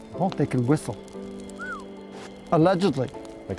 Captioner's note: whistles